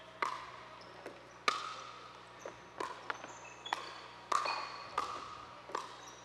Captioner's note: ball thudding and shoes squeaking